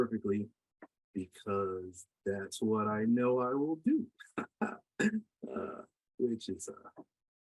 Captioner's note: chuckles